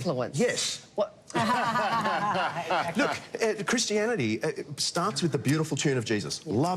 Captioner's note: laughter